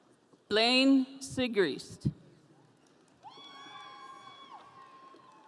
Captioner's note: audience cheering